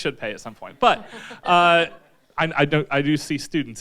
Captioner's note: audience chuckles